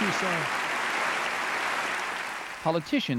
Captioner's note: applause